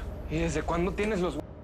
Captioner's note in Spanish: Habla entre dientes